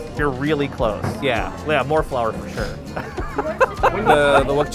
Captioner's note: laughs